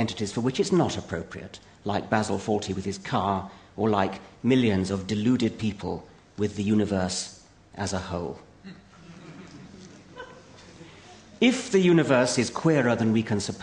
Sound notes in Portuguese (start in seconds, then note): 8.9 Risos